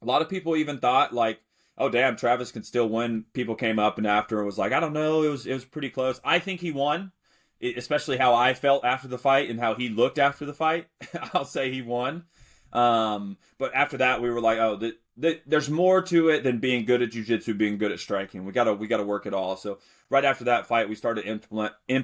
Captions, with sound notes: a lot of people even thought, like, "Oh, damn, Travis can still win." People came up and after and was like, "I don't know. It was, it was pretty close." I think he won, e- especially how I felt after the fight and how he looked after the fight, [chuckles] I'll say he won. Um, but after that, we were like, "Oh, the, the... There's more to it than being good at jujitsu and being good at striking. We gotta, we gotta work it all." So right after that fight, we started implement-